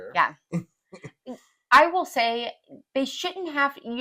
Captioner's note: laugh